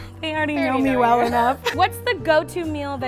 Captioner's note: chuckles